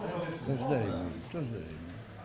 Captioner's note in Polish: głosy z sali